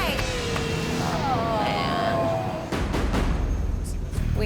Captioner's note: groaning